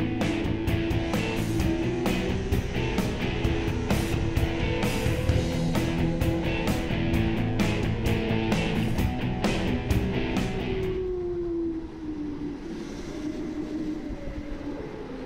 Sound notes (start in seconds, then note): 11.7 engine revs